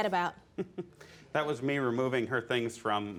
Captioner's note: chuckles